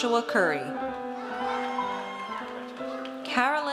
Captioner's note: audience cheers